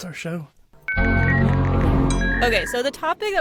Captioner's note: overlapping technological sounds